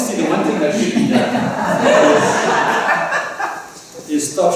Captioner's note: laughter